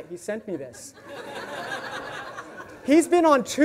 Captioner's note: audience laughs